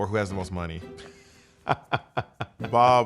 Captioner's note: laughs